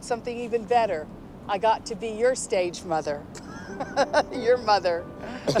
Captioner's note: laughs